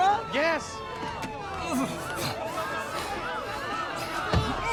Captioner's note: sirens blaring